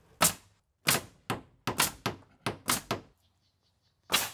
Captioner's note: nail gun shooting